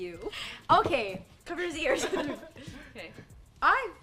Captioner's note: laughs